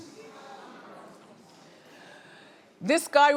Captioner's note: audience groaning